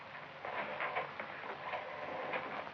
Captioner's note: dialer rattling